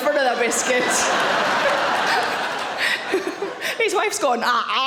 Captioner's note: audience laughing; Sarah laughs